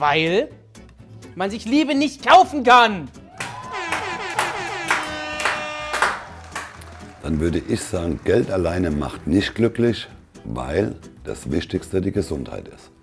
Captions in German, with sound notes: Man sich Liebe nicht kaufen kann! (Vorsichtiger Applaus, Tröten) Dann würde ich sagen, Geld alleine macht nicht glücklich, weil ... das Wichtigste die Gesundheit ist.